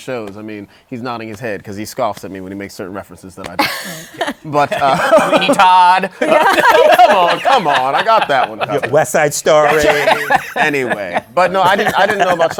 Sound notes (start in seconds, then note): 3.6 laughs; 6.0 laughter; 9.5 laughs